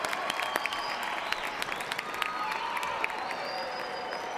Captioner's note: cheers and applause